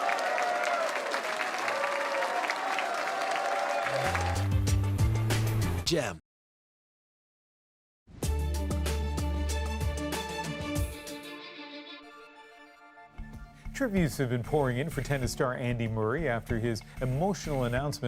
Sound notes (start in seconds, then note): 4.0 applause and cheering